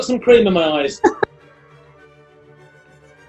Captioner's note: giggling